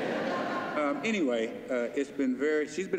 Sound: laughter

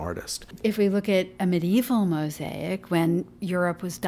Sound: voiceover

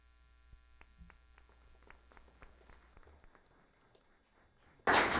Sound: audience applauding

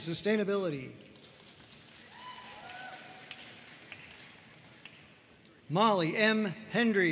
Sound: audience cheering and applauding

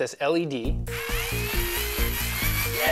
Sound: electrical whirring

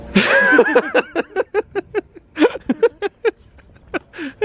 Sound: they laugh

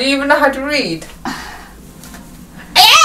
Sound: sigh

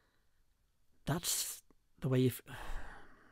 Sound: sigh

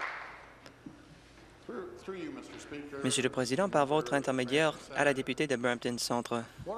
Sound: applause

